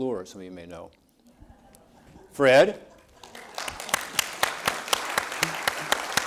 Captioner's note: audience applauds